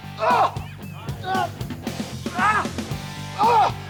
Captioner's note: grunting